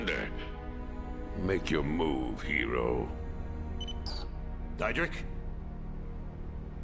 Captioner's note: machine beeping